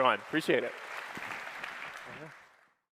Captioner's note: applause